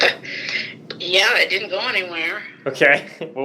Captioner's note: laughing